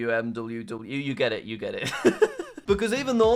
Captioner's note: laughs